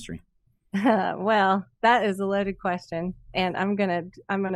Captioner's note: chuckles